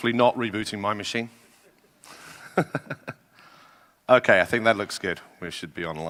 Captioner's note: laugh